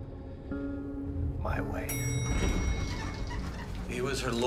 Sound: elevator dinging

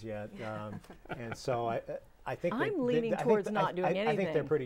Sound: laughing

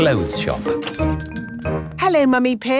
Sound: doorbell chiming

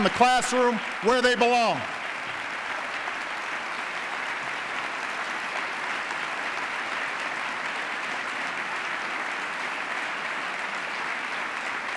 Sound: applause

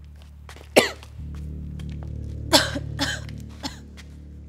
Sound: coughing

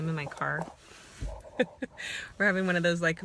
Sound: laughs

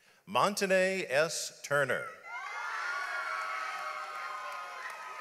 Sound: audience applauds

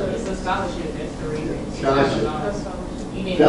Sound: student mutters

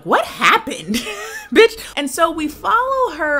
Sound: laughing

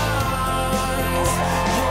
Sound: cheering; singing

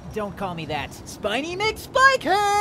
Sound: mockingly

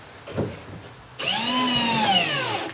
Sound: drilling noise

